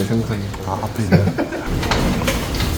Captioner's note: laughs